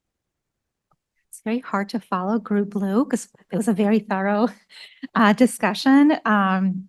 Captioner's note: laughs